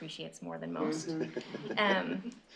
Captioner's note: laughter